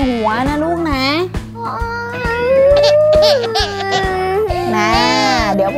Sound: crying

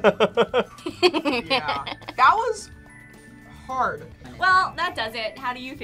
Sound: laughs

